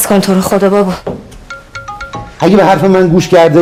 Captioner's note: mobile ringing